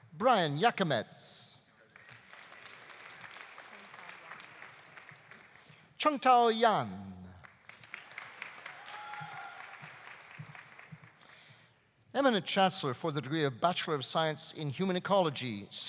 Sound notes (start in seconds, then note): 1.8 audience applauding; 7.4 audience applauding; 7.9 audience cheering